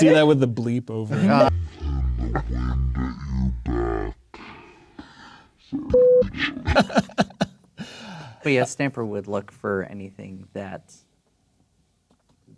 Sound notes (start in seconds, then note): 1.4 distorted slow motion speech; 5.9 beep!; 6.7 laughing